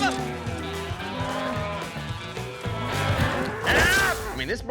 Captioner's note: mooing